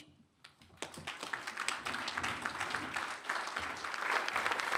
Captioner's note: applause